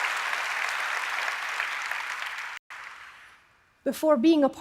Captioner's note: applause